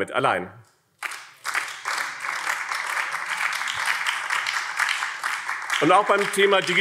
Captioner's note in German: Beifall BÜNDNIS 90/DIE GRÜNEN